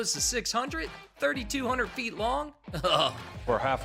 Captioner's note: chuckle